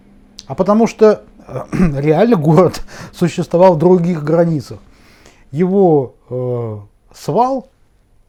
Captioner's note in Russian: откашливается